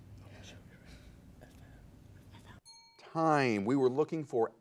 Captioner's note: whispering; ding